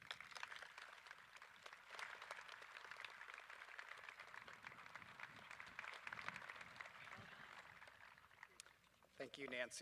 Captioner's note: applause